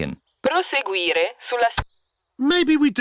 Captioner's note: sat nav talks in italian